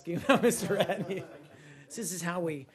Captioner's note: laughter